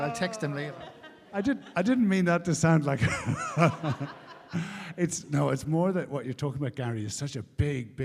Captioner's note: laughter